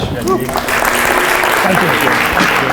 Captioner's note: applause